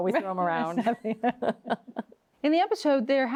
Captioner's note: both laughing